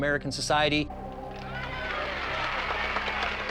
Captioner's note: women cheering